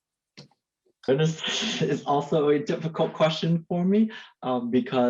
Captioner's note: chuckles